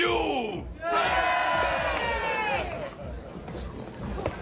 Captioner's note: all cheering